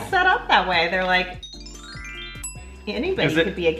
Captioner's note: twinkly bells ring